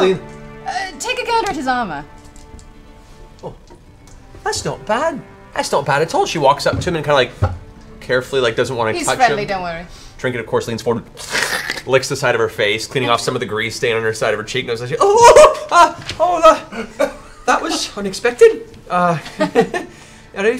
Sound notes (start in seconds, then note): 11.1 slurp; 15.0 shocked laughter